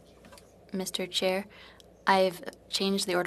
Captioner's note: speaking in French